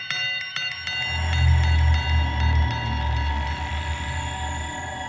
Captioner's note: slow monstrous roaring